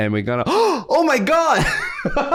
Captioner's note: gasps